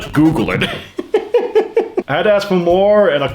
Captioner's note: laugh